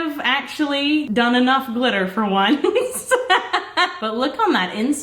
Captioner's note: laughs